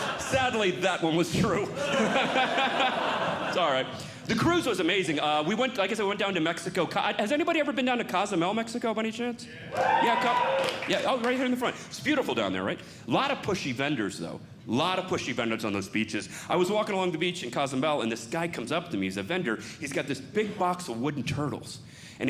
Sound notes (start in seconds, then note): 1.4 audience Laughing; 9.6 audience Cheering